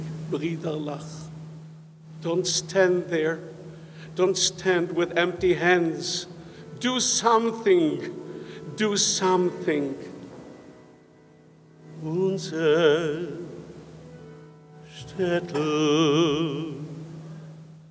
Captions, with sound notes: Our town is burning (speaks foreign language) don't stand there. Don't stand with empty hands, do something, do something. (singing in foreign language)